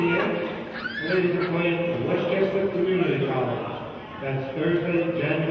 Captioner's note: murmurs